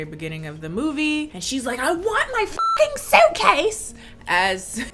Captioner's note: beep